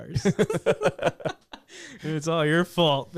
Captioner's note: laughs